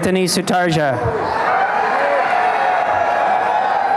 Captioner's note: applause and cheering